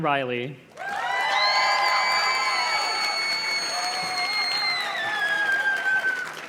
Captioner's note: audience cheers and claps